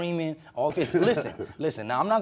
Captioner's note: laughs